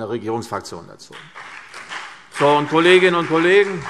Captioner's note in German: Beifall CDU und BÜNDNIS 90/DIE GRÜNEN